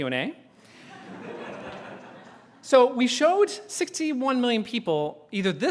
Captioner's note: laughter